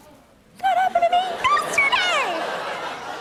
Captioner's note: laughter